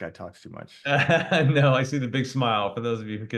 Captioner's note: laughs